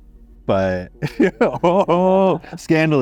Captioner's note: laughs